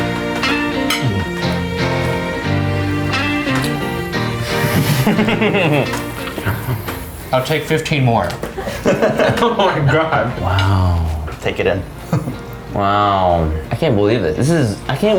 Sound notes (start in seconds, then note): 4.3 laughing loudly